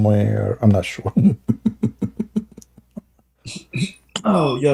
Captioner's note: Ketawa